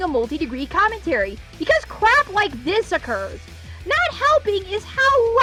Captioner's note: none